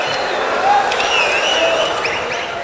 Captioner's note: wild applause and cheering for 22 seconds